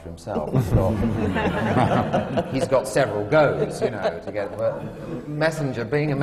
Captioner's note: laughter